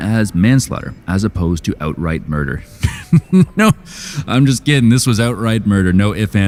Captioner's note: laughs